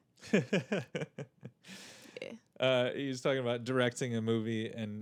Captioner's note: laughing